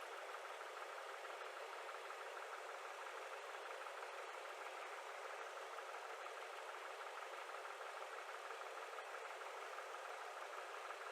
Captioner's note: engine running at idle noise